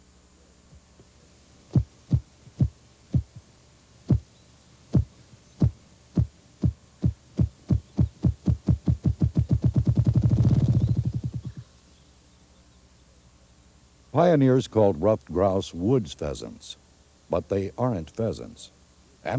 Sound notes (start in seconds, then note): 1.3 grouse beating sounds